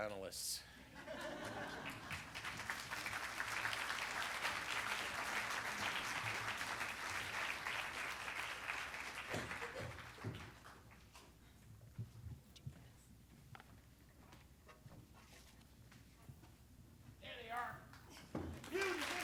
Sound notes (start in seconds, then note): 0.8 laughter; 1.2 applause; 18.4 applause